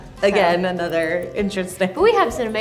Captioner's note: laughs